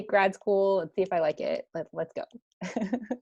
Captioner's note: chuckles